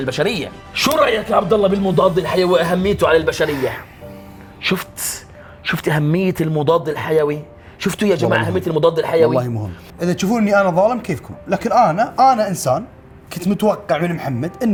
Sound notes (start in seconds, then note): none